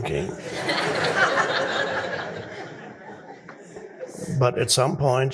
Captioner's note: audience laughing